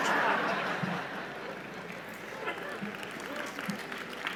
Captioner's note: laughter and applause